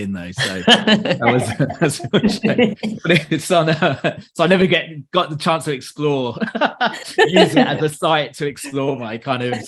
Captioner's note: laughter